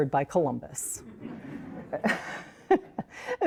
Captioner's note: all laugh